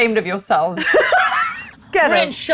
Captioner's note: laughs